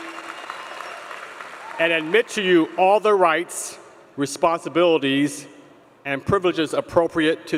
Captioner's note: applause